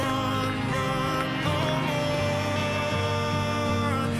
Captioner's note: footsteps